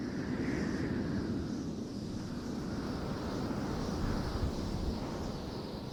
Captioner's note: wind blowing